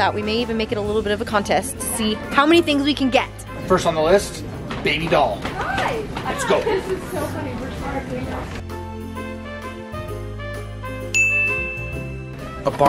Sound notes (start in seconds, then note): 5.5 shoppers in the background; 8.3 upbeat music; 11.1 ding